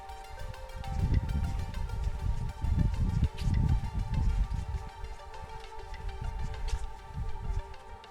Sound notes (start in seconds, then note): 0.0 wind